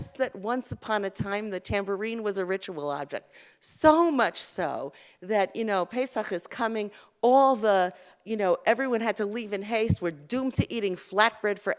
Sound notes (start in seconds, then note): 5.7 Hebrew